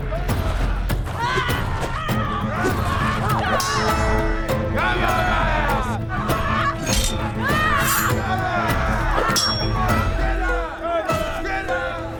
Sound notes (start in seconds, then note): 0.1 upbeat music; 5.0 all cheering; 7.8 upbeat music